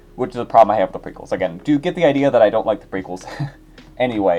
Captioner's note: laughter